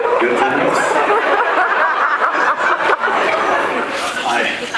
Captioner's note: laughing; laughs